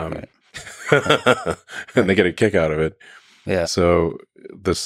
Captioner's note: laughs